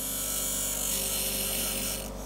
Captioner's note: loud whirring